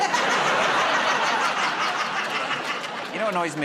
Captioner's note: laughter